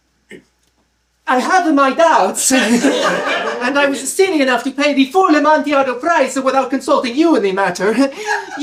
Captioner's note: Italian accent, pitched down; laughter